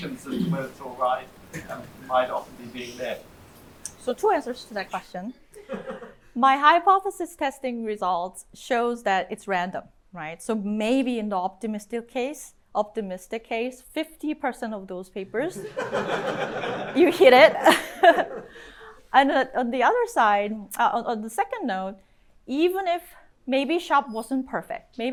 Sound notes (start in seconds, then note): 15.5 laughter; 15.6 chuckles